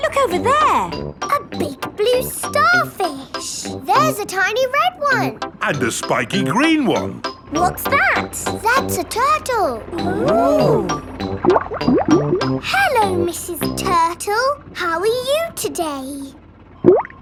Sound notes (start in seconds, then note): 10.6 bubbling; 16.8 bubbles; 17.0 laughing